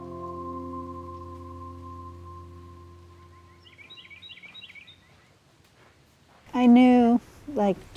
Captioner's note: birds and nature sounds